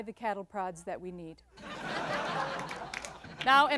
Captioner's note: heavy laughter